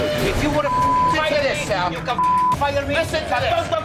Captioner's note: beep